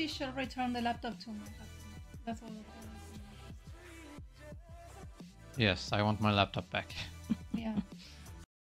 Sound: laughs

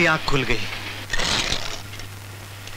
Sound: door creaks

